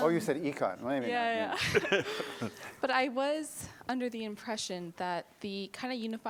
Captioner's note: laughter